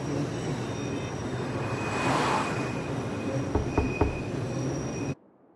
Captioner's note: traffic whooshing